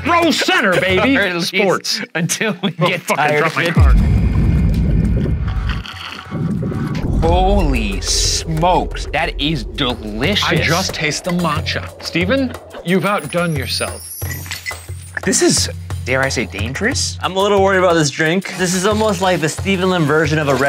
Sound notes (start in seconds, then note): 1.6 laughing; 5.6 slurping